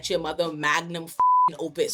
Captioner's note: beep